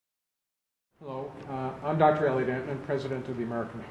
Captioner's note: voiceover